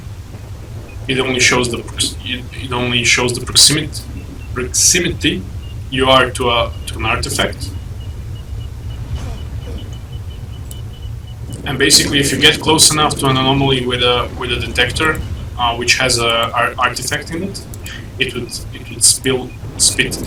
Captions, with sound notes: It only shows the proximity you are to an artifact *detector plings slowly as it lights up* *Plings get faster* *Small, bassy explosion, gushes of wind, character moans* and basically if you get close enough to an anomaly with a detector which has an artifact in it... It would spit the artifact out.